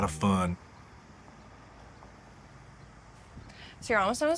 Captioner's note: traffic faintly whizzing; birds singing